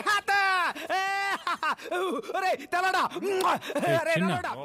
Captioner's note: Laughs